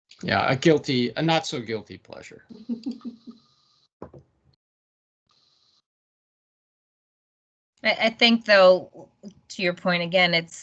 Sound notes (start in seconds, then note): 2.5 laughing